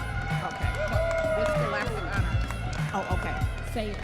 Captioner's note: audience members cheering